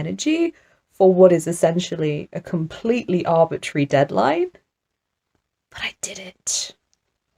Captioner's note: whispers